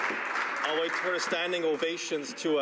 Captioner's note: applause